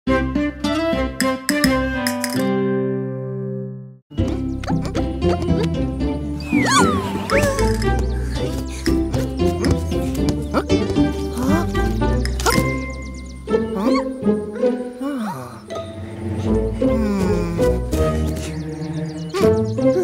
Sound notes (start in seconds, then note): 8.9 sound of the ball; 15.0 puzzled sigh